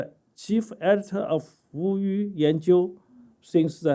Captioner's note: speaking chinese